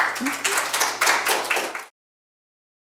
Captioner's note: audience applauding